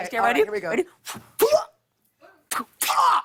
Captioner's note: grunts